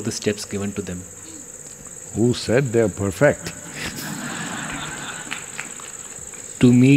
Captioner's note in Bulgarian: смях